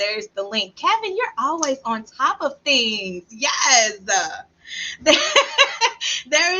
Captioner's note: laughs